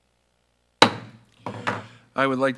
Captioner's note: gavel banging